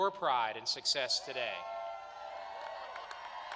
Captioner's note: applause